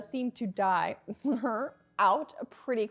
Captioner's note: snickers